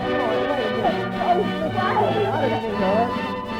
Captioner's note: crying